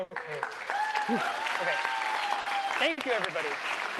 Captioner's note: cheering